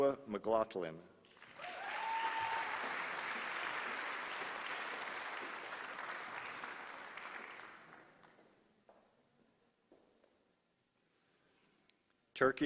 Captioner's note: applause